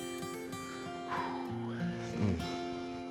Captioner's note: sighs